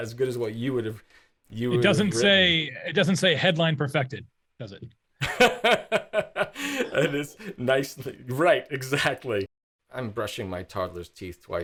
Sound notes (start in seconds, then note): 5.2 laughing